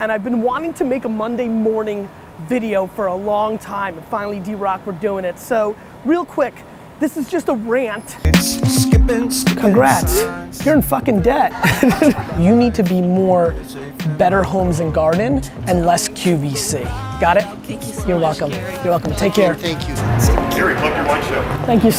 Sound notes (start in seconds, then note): 8.4 hip-hop music; 11.2 laughing